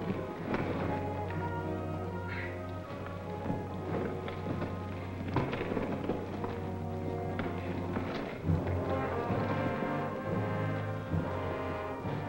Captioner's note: scraping